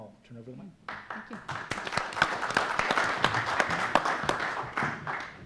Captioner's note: audience applauds